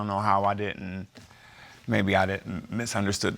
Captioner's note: scoffs